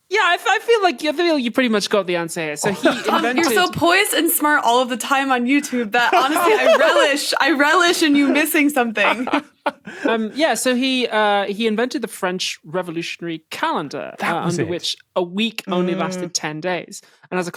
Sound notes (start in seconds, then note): 2.6 laughs; 9.1 laughs dejectedly